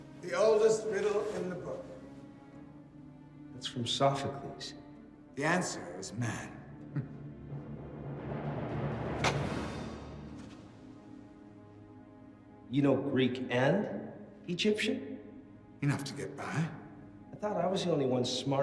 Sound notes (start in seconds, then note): 6.9 Ryder chuckling; 8.7 ominous music